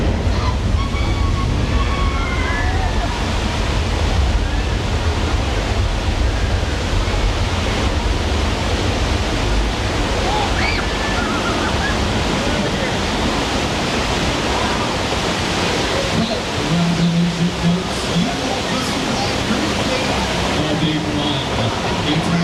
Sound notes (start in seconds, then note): 10.1 people screaming